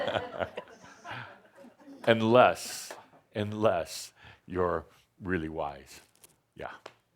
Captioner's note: laughter